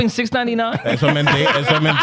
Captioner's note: laughing